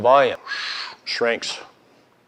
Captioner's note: breathes loudly